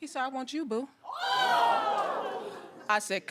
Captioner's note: audience exclaiming